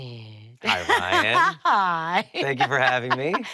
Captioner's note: laughing